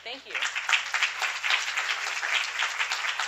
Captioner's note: applause